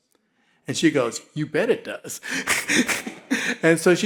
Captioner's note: laughs